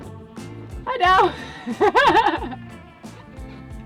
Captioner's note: laughing